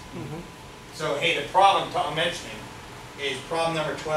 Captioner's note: speaks softly